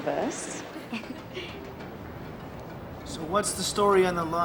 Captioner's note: laughing nervously